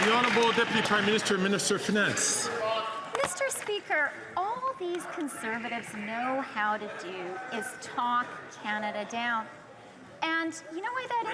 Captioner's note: some Applause